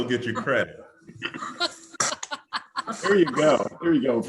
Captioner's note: laughs